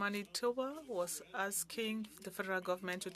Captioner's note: speaking French